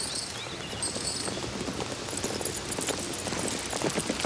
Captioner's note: hooves clop